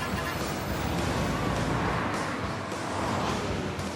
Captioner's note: car horns honking